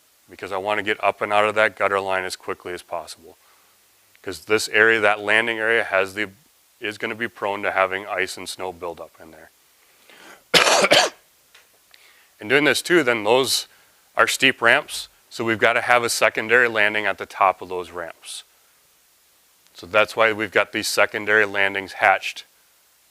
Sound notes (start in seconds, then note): 10.5 coughs